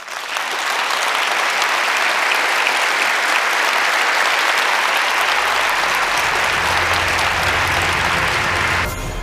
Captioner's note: applause